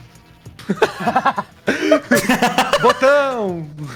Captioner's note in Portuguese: Risadas